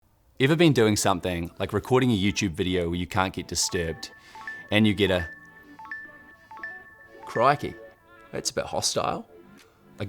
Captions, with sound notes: - Ever been doing something, like recording a YouTube video where you can get disturbed and you get a... (notifications dinging) Crikey, that's a bit hostile.